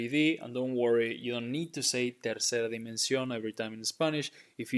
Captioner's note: speaking in Spanish